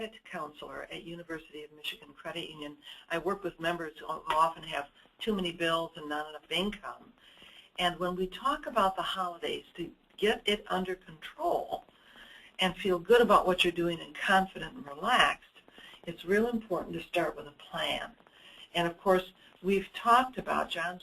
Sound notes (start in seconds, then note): none